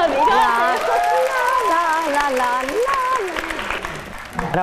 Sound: clapping hands

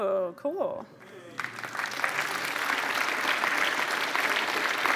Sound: applause

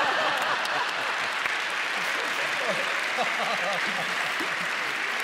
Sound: laughter; applause

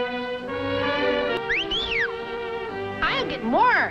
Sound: whistles

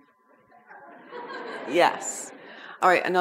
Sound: audience laughs

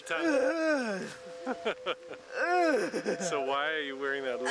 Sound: laughing

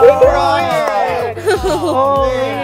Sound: everyone talking

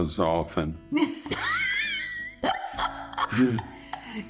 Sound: laughter

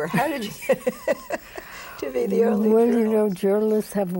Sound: both laugh

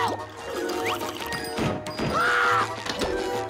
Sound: screaming

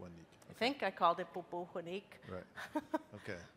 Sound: speaking in a foreign language

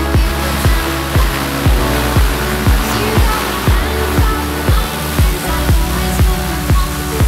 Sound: music; Piper Cherokee engine run-up

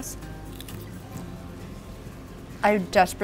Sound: chicken crunching loudly

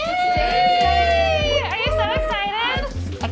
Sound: all cheering

